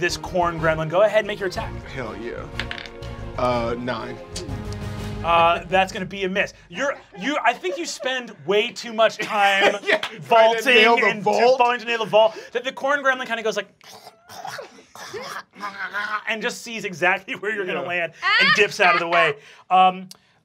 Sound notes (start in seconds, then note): 2.6 dice clacking; 14.0 snarling; 18.2 laughs